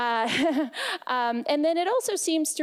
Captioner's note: laughing